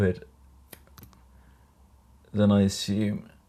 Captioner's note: scissors snipping